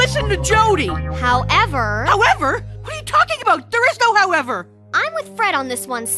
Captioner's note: none